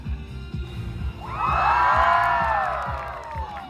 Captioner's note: fwoosh